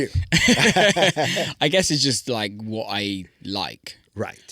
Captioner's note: laughing